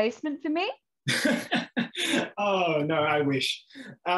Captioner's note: chuckles